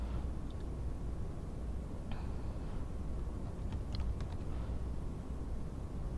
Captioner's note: typing clicks